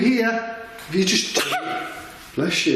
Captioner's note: sneezing